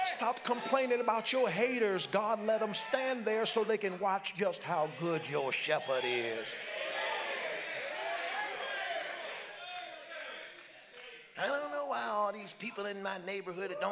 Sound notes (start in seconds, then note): 6.7 congregants cheer and call out